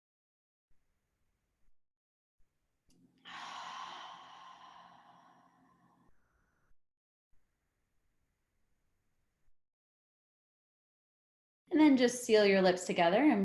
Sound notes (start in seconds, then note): 3.2 exhales